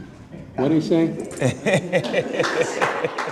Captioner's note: laughing